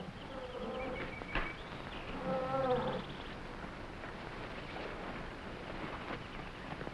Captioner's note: animals chattering; plants rustling